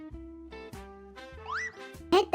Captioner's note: cartoon slide SFX